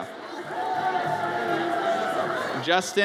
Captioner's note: audience cheers